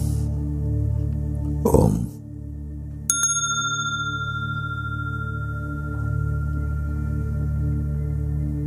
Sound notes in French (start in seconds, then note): 3.1 fait sonner la clochette